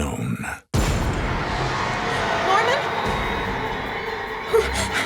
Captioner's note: gasps